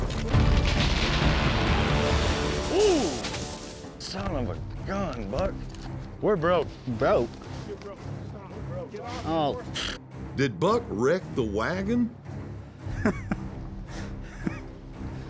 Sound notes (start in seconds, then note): 9.6 blows raspberry